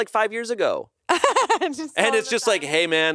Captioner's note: laughs